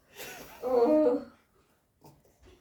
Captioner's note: Agnes moans